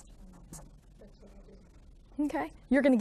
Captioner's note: student speaking faintly